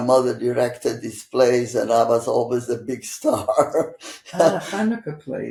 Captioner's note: laughing